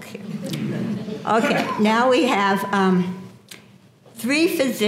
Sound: laugh

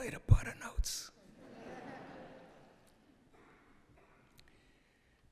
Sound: laughter

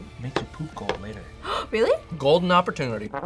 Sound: gasps

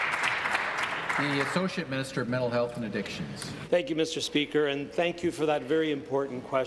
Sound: applause

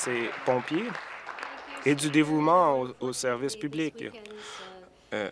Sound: applause

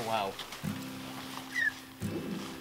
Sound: squeaks

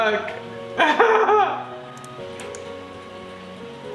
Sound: laughs

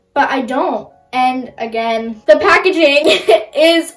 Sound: laughs

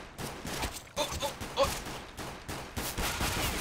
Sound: gunfire

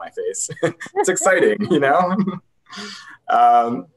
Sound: laughs

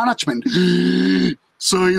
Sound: inhales sharply

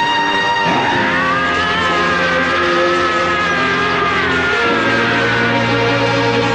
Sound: more screams

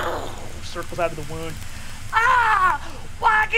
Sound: shouts

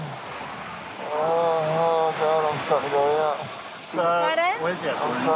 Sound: moans

